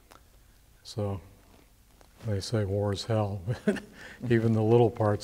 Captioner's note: chuckles